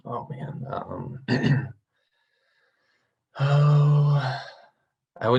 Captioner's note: clears throat